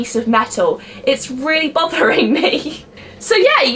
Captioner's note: laughs